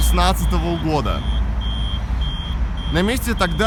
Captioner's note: traffic light signal